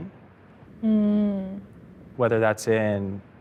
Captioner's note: hums